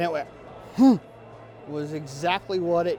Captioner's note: grunting